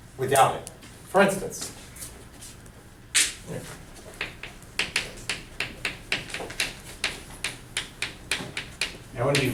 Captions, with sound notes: For instance. (chalk clicking on board)